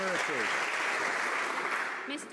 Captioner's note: some Applause